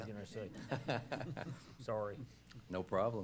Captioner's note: laughing